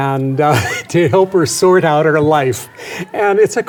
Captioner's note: chuckles